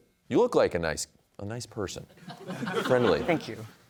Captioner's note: audience laughs